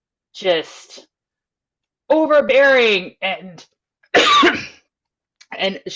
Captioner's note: coughs